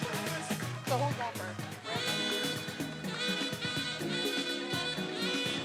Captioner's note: speaking faintly